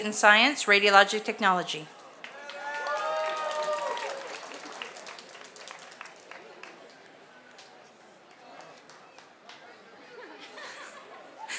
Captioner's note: applause